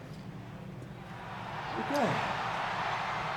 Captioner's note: audience cheers